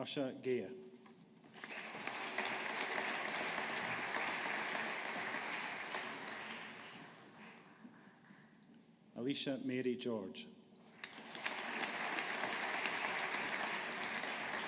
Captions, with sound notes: Usha Gaire. (AUDIENCE APPLAUDING) Alisha Mary George. (AUDIENCE APPLAUDING)